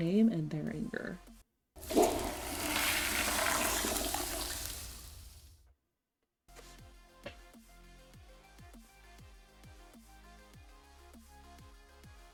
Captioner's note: toilet flushing